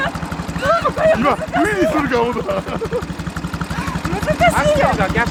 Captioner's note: laughs